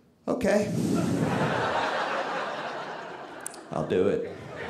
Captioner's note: audience laughing